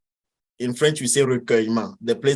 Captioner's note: speaks in foreign language